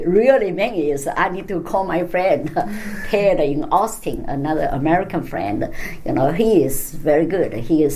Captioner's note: laughs